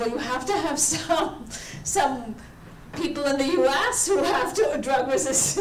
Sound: laughs

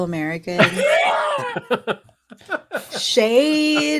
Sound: laughing

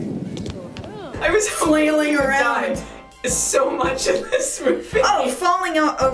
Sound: chuckling

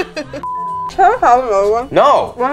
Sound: beep

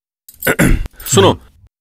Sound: clears throat

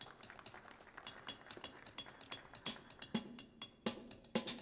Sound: audience applauds

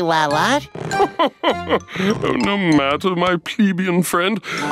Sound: laughing

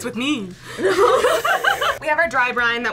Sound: both laugh

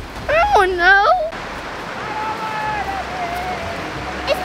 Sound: whimpers

